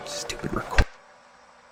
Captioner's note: tape silence, then button clicking